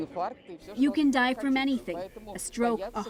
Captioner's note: speaking Foreign Language